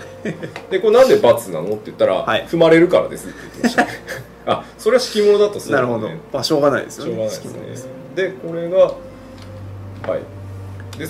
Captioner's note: laugh